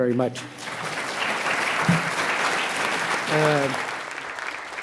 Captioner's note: audience applauds